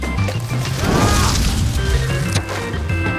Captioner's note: food crunching; fire roaring; Johnny screams; handle clacks; foam rustles